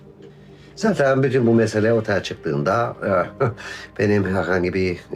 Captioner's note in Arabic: يضحك